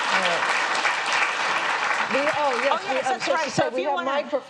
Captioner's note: applause